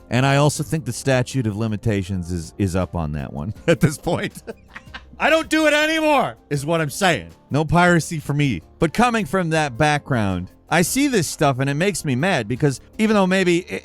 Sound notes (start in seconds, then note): 3.7 laughing